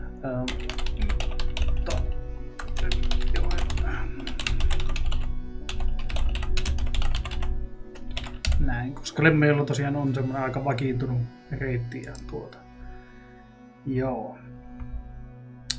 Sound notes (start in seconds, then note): 1.3 intense typing